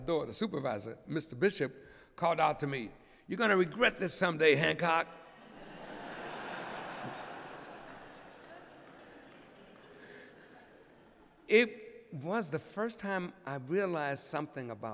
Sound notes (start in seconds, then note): 5.3 laughter